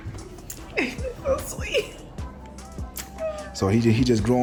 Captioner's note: laughs